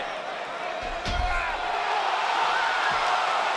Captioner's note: Corbin yells; crowd cheering